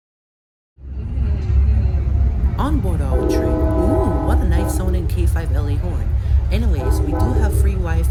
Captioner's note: cab car Honks horn